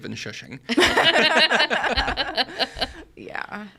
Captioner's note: all laugh